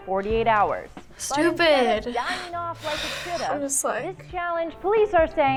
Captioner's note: sighs